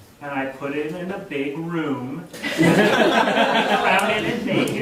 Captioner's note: audience laughing